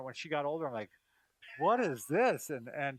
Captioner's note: laughing